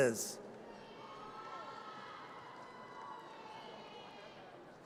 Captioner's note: audience cheers